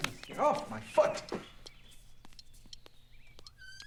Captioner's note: ticking